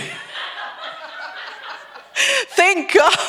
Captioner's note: everyone laughs